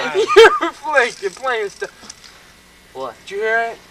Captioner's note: rattle noises